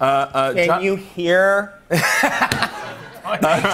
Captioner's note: laughter